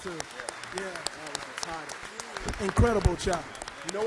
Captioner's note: applause